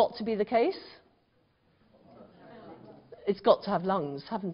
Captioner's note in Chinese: 無聲